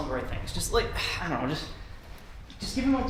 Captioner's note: sighs